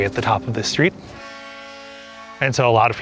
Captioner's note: ferry horn